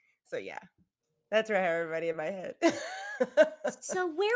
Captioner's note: laughs